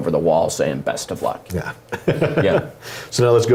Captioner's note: laugh